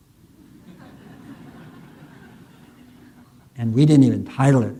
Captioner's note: audience laughing